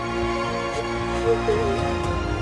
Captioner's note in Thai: เสียงสะอื้น